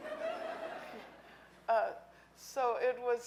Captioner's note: audience laughing